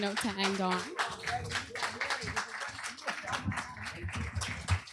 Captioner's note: applause